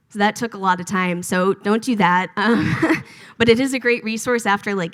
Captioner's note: laughs